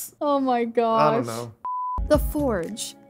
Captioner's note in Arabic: صفير